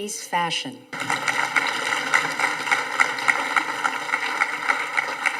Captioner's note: audience applauding